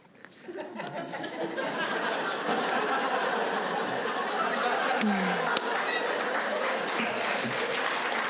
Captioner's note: laughs; applause